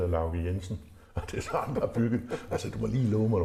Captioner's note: laughing